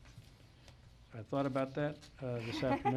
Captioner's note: laughs